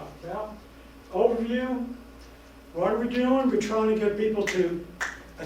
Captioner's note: snap